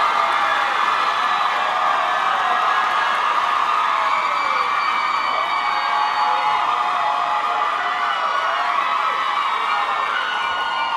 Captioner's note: cheers & applause